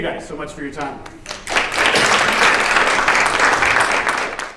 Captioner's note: audience clapping